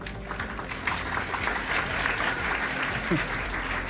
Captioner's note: audience applauding